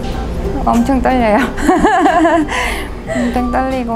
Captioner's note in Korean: 웃음